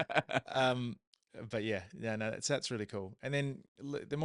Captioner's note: laughing